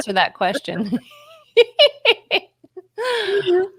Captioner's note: laughs loudly